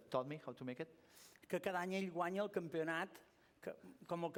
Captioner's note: non-english speech